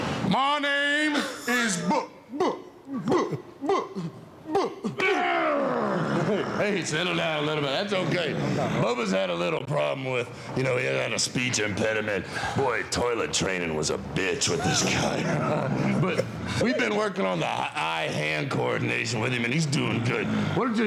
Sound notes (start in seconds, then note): 5.1 Dudley growls